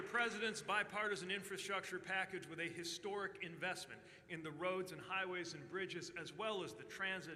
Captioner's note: applause